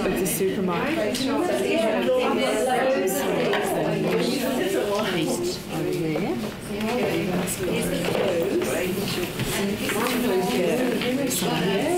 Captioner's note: audience chatter